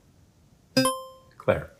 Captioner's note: buzzer chimes